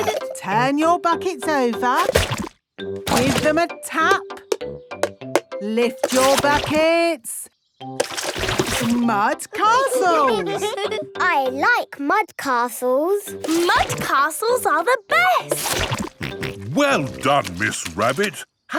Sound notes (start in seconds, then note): 4.6 taping; 9.6 all giggling